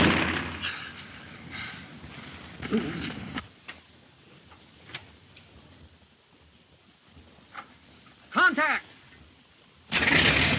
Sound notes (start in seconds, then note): 0.0 gun firing; 2.7 man groans